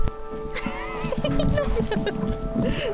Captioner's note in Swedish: Skratt